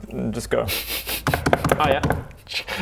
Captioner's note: knock knock knock knock knock